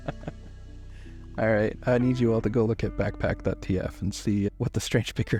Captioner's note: laughing